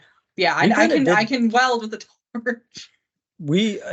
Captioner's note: chuckles